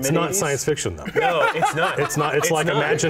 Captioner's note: laughing